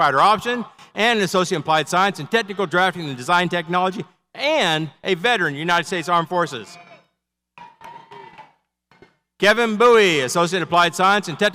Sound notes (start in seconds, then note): 7.8 audience cheers